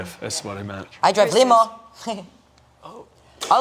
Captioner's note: laughing